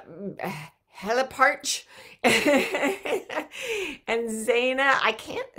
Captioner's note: laughing